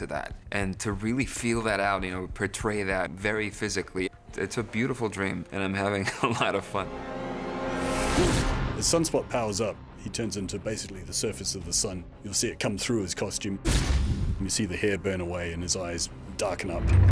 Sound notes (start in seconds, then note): 6.0 chuckles